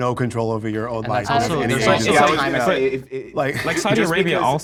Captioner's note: group buzzing